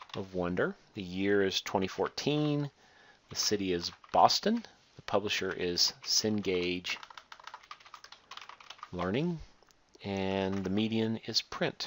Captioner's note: typing